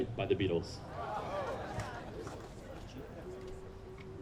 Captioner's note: all exclaim